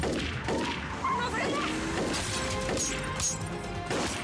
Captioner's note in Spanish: ruido al romper los vidrios